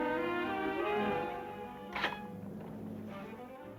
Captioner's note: clicking